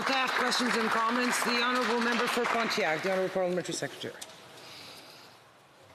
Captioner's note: some Applause